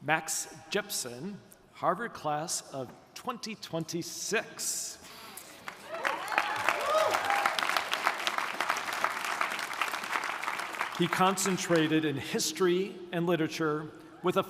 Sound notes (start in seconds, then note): 5.6 audience applauding; 5.8 audience cheering